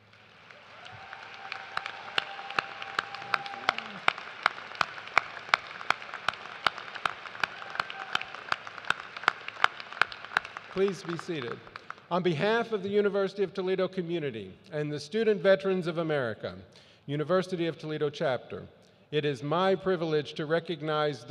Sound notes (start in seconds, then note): 3.9 cheers and applause